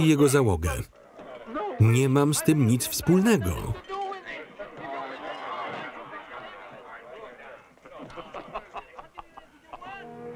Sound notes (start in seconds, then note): 3.0 chatter; 7.9 laughing